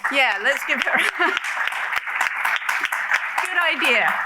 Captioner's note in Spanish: applause